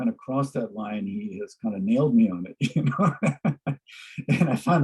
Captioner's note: laughs